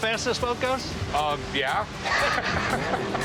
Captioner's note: chuckling